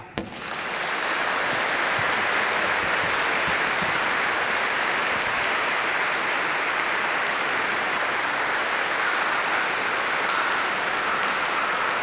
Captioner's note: applause